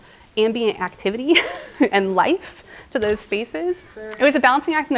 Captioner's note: giggling